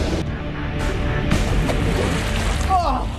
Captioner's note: tense music playing; water splashing